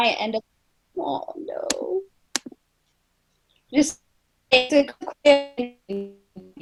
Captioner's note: audio static; audio cuts out